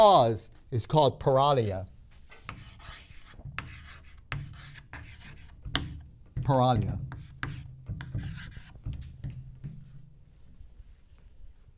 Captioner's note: chalk sounds